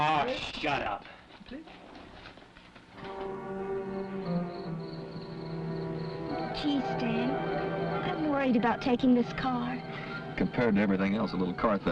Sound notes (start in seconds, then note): 3.0 ominous instrumental music; 3.0 crickets chirping